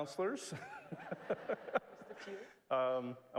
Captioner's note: laugh